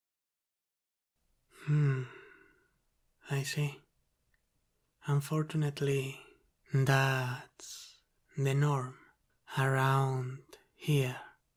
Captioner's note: sigh